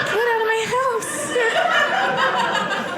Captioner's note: audience laughing